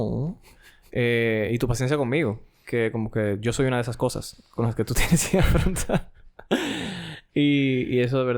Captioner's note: laughs